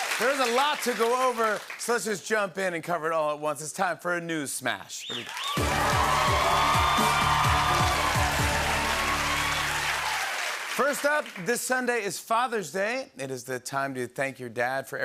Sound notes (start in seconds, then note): 5.1 cheering, whistling, and applause